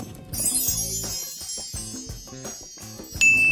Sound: twinkling

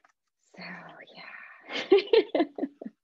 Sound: laughs

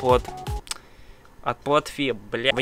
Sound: lip smack

